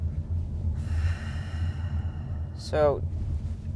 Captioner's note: Weiss exhales